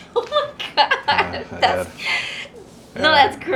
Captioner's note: laughs